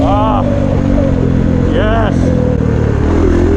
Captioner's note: bike freedom sounds